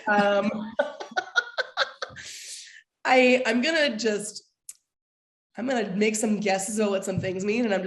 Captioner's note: laughter